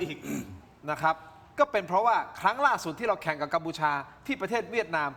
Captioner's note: clears throat